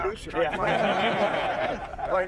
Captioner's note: stammers; all chuckling